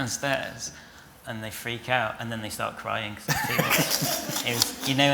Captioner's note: laughter